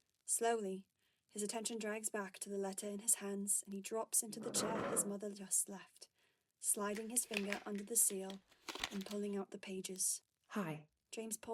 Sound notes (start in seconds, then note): 9.5 paper rustling